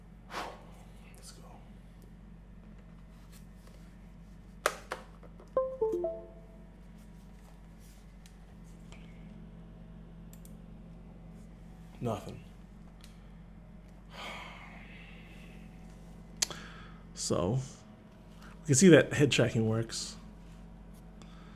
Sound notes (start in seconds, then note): 5.6 PC new device recognition sound